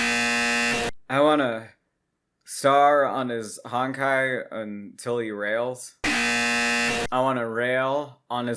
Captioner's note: 𝐄𝐗𝐓𝐑𝐄𝐌𝐄𝐋𝐘 𝐋𝐎𝐔𝐃 𝐈𝐍𝐂𝐎𝐑𝐑𝐄𝐂𝐓 𝐁𝐔𝐙𝐙𝐄𝐑; 𝐄𝐗𝐓𝐑𝐄𝐌𝐄𝐋𝐘 𝐋𝐎𝐔𝐃 𝐈𝐍𝐂𝐎𝐑𝐑𝐄𝐂𝐓 𝐁𝐔𝐙𝐙𝐄𝐑